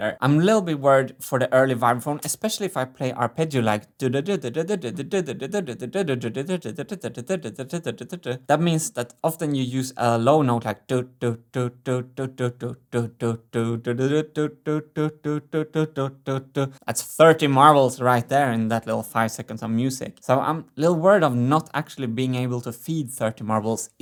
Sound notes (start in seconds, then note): 4.0 humming three-note melody in fast tempo